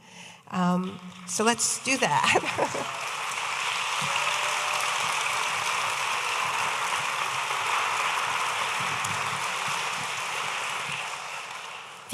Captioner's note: audience applauding